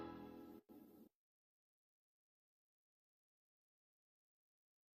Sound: silence

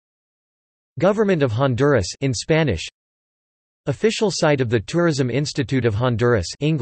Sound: in Spanish

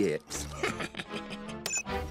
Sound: laughs

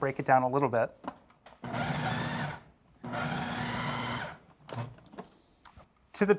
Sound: blender pulsing

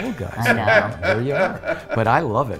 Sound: laughs

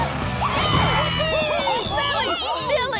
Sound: cheering

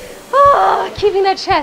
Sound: groans

